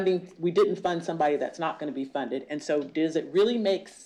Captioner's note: none